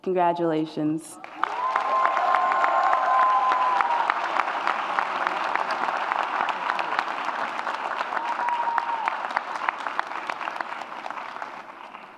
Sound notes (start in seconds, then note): 1.5 audience applauds and cheers